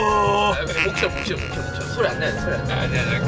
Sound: kekeke

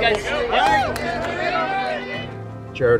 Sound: crowd cheers

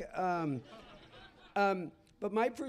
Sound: laughter

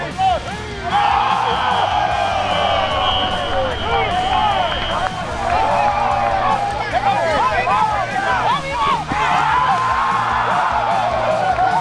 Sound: cheering

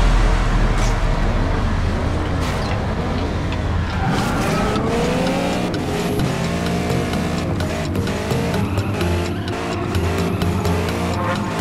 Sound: clock ticking

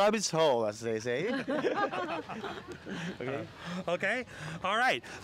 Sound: laughing

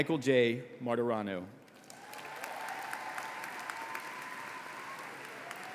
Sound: applause

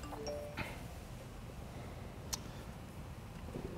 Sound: phone chimes

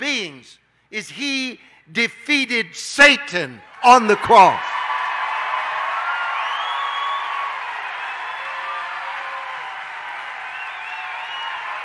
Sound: audience cheering

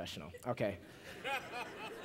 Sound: laughter

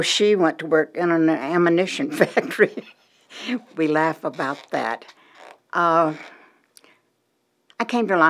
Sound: laughter

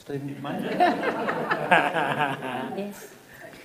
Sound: laughing

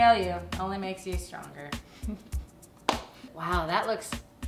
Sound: Sarah laughs and claps

